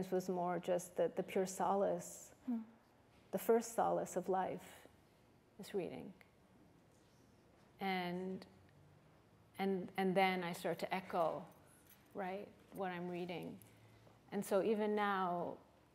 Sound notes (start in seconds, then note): none